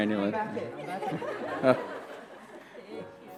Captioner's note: laughter